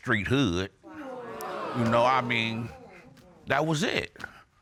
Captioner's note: audience exclaiming